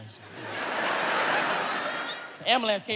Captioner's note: audience laughs